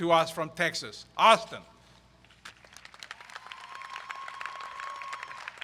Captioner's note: crowd applauds